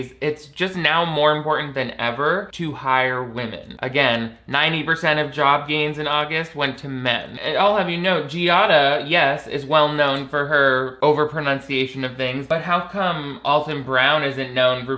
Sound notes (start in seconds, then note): none